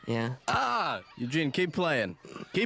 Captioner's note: yells